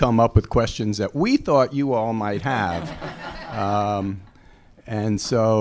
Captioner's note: chuckles